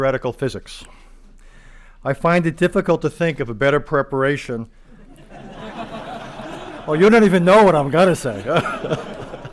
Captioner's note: laughter